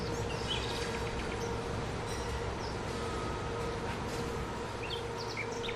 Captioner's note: birds chirping